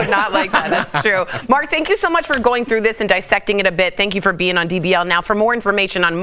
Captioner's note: laughter